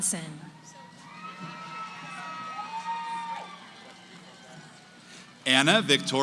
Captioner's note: cheering